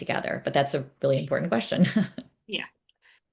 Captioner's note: chuckles